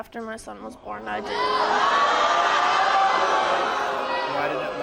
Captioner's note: audience screaming